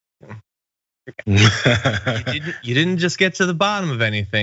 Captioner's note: laugh